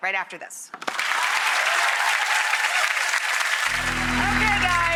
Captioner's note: audience applauds